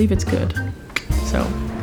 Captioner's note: clicks tongue